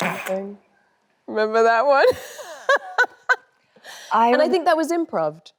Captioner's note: laughs